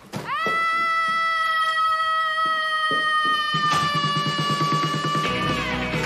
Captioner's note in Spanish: Grito prolongado